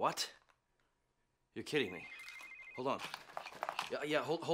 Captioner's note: cell phone rings